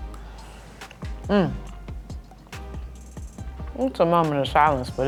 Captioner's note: hums